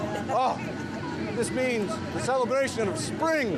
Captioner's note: laughter